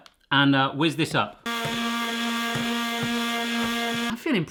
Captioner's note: blender buzzes